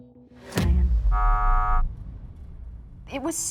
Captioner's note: buzzer